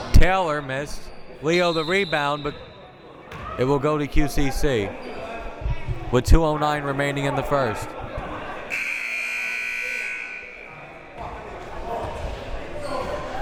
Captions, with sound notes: Taylor missed, Leo the rebound but it will go to QCC with 2:09 remaining in the first. (buzzer)